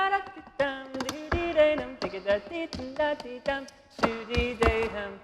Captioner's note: shoes clacking